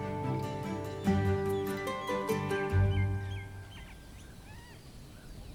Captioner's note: light music continues; birds chirping